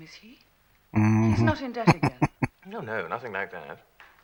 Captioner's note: chuckling